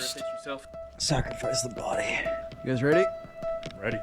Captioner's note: muttering